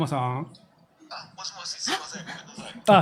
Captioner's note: on phone